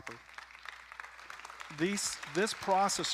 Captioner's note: audience applauding